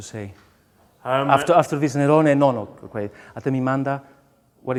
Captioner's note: speaks in foreign language